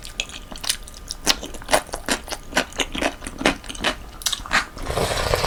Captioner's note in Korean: 아작아작아작